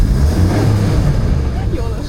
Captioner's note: speaking foreign language